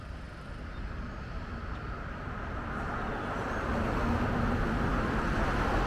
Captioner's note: road traffic goes on